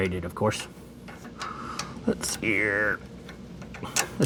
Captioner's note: exhales